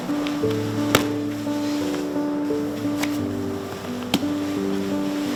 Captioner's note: thudding